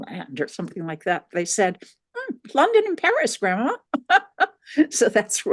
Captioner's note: laughing